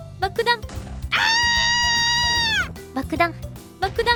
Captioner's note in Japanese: つんざくような悲鳴